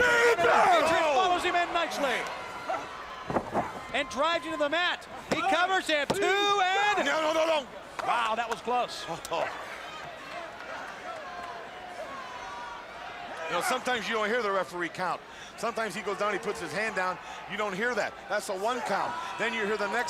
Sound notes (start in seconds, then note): 10.0 crowd chattering